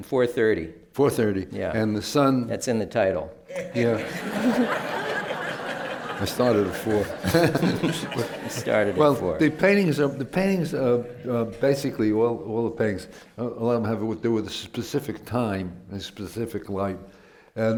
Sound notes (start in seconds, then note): 3.5 laughter